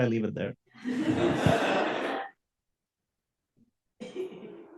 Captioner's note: audience laughs